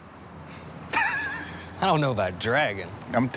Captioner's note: laughing